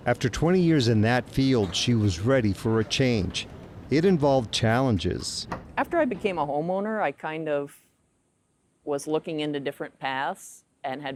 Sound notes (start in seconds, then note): 5.1 door clicking